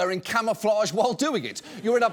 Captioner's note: audience laughs